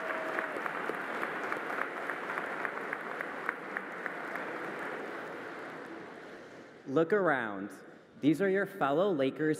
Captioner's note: applause